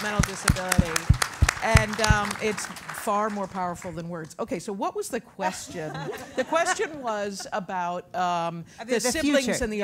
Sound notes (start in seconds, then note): 0.0 applause; 7.5 laugh